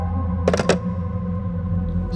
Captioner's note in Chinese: 電話掛斷聲